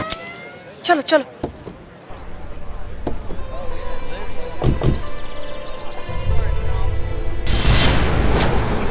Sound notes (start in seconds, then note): 1.4 car door opening